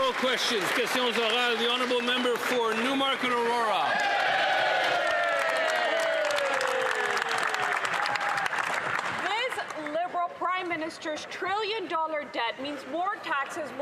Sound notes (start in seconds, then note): 3.3 some Applause